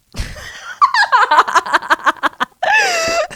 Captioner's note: laughs